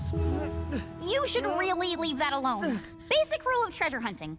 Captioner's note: grunting